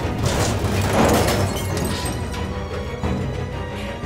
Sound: trashcans clatter

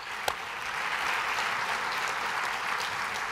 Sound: applause

